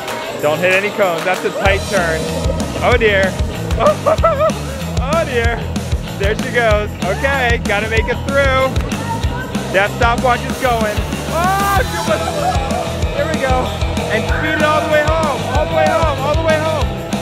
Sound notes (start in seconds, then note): 3.8 laughter